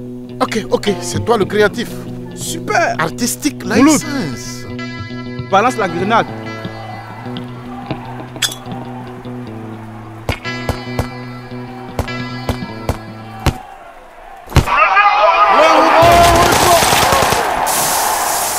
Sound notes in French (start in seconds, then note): 8.4 clic de la goupille; 15.9 explosion de grenade